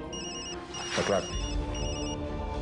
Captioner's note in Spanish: Suena un celular